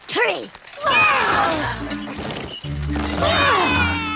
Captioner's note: all grunting